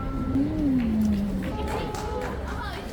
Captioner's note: clap clap clap